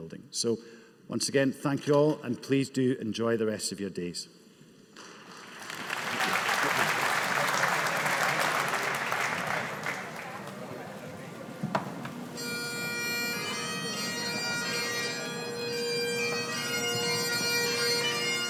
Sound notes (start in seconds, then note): 5.7 audience applauding; 10.2 audience chatters; 14.3 bagpipes playing